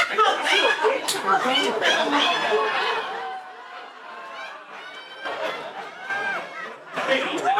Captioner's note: audience laughing